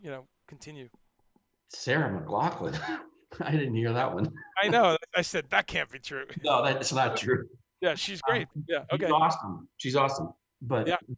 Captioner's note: laughs